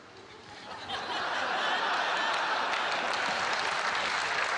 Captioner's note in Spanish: Risas; Aplausos